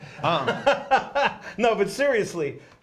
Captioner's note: laughs